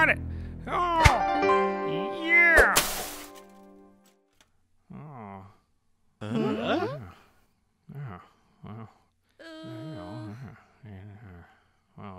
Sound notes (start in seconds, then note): 6.2 confused mumbling